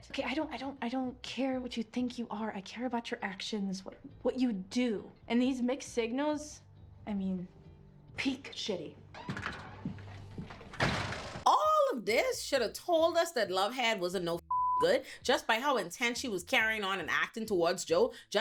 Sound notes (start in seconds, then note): 14.4 beep